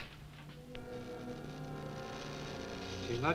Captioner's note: equipment buzzing